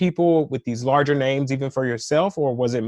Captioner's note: none